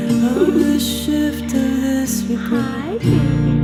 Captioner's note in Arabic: الضحك